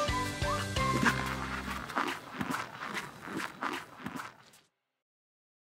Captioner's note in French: cheerful music continues; footsteps crunching